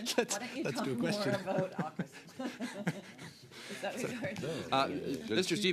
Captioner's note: laughter